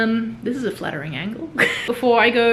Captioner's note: laughs